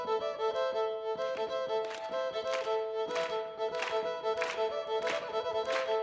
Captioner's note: clapping; audience clapping